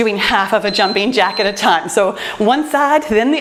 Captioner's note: timer beeps